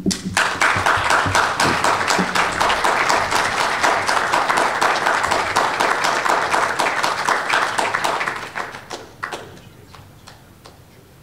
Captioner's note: applause